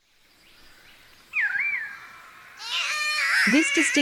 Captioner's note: Catbird calls